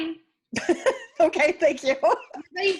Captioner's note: laughs